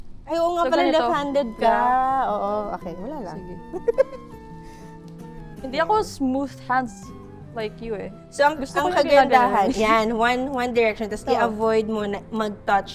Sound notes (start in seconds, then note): 3.7 laughs